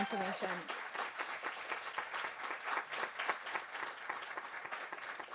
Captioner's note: audience applauding